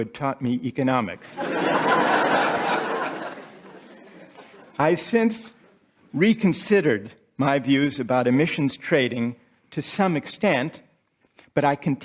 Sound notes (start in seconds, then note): 1.4 laughter